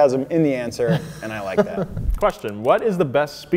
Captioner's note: laughing